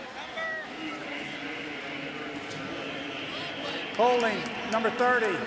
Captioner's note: pa announcement